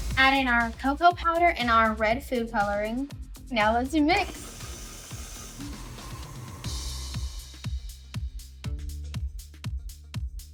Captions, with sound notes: Add in our cocoa powder and our red food coloring. Now let's a mix. (mixer buzzing) (upbeat music)